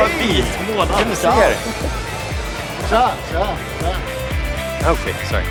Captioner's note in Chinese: 说外语